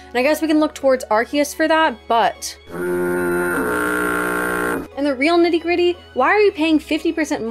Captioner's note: boat sounds